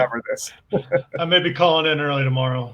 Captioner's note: laughs